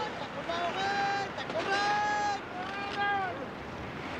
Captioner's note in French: Cris des chasseurs